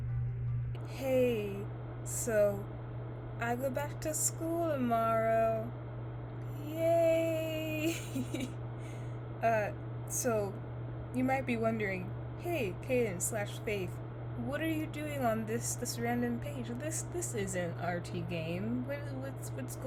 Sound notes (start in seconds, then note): 7.6 laughs